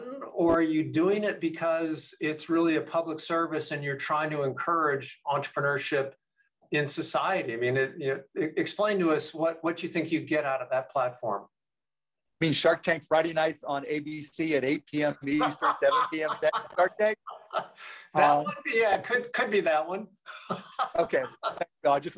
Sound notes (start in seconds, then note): 14.9 laughing; 20.2 laughs